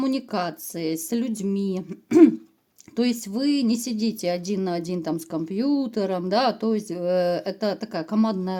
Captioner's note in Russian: откашливается